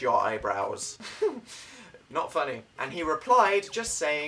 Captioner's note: giggle